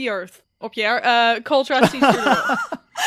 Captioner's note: laughter